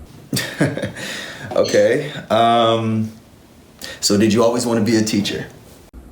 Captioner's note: laughs